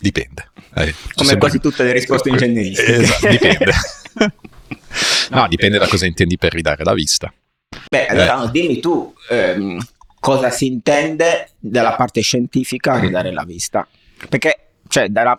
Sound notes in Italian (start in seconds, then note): 2.2 risate